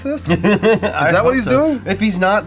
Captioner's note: laughs